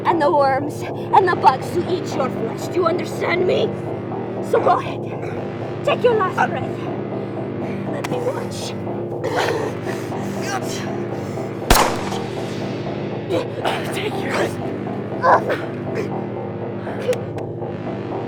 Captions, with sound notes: and the worms and the bugs to eat your flesh. Do you understand me? So go ahead. Take your last breath. Let me watch. [gunshot booms] - Take yours. [suspenseful music]